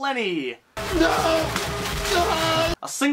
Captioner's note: paper crumpling